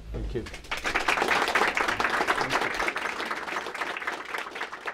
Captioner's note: applause